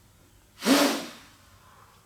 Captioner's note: sharp exhale